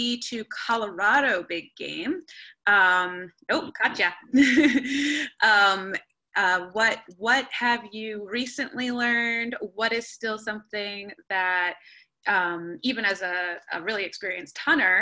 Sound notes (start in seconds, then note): 4.3 laughter